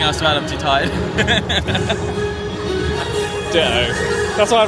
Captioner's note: laughs